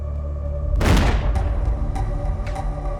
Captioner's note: gunshot